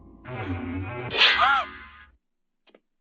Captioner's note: Anita gasps